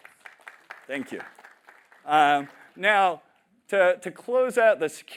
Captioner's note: applause